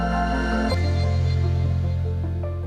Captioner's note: none